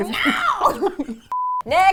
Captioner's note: laughs; both laugh